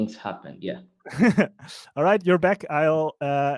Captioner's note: laughs